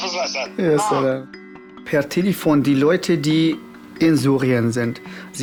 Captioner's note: in German